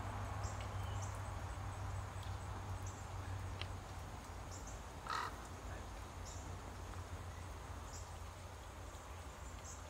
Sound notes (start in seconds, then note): 5.0 crow squawking